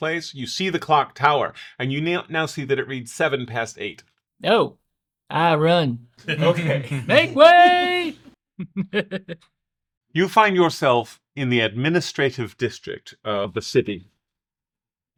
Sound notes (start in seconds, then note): 6.2 group chuckle; 6.2 small laugh